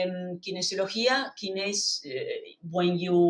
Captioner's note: speaking in foreign language